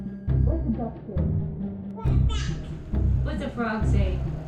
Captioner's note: baby shouting